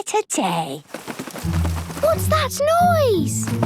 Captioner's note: scuffling